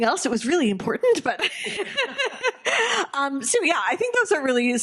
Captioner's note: laughing